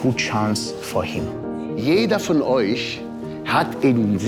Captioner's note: man, in German